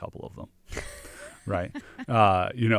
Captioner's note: laughs